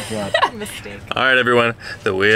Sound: laughing

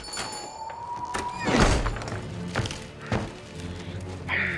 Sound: bells ring; door slams

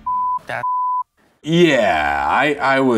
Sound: beeps

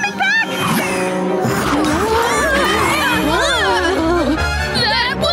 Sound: groaning

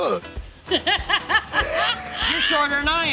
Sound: laughs

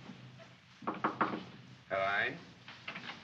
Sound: knocking on door; door opens; man speaks in German

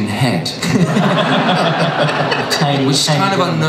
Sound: everyone laughs

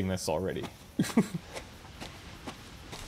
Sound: chuckles

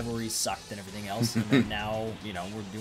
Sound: laugh

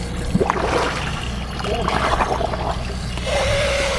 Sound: water bubbling

